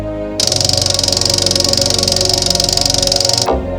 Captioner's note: object clicking